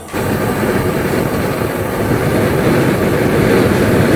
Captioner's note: propane hissing